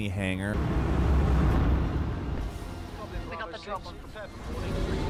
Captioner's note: radio chattering